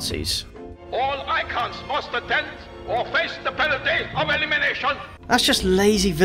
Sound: German accent

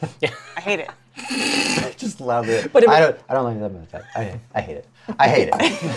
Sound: mutters; laughter

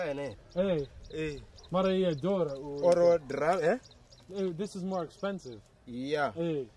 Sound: speaking native language

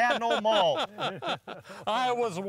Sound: laughing

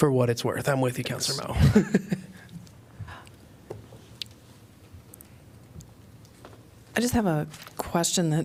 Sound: laughter

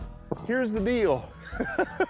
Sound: giggling

